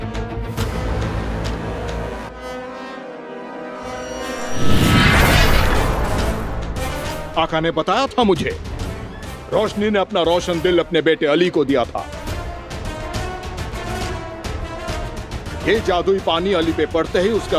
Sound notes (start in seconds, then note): 3.9 magical sound